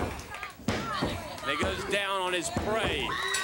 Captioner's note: crowd cheering